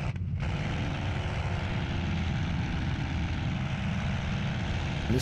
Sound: engine fluttering; engine humming

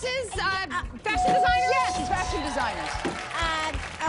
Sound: bell dings

